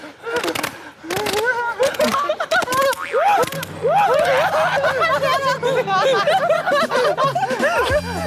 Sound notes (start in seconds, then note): 0.1 all you can hear is applause and laughter; 5.1 everyone laughs out together and passes out